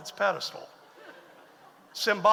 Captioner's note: audience laughs